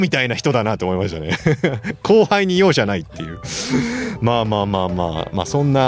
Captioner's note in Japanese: 笑い